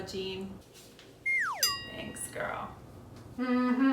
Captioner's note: bell chimes